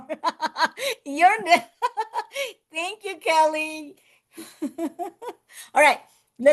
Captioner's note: laughs